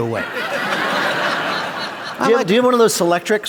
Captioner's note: laughter